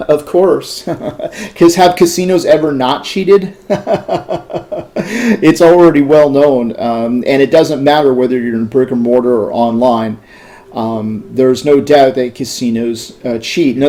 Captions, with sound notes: - Of course, cause have casinos ever not cheated? (laughter) it's already well known. And it doesn't matter whether you're in a brick and mortar online. There's no doubt that casinos cheat.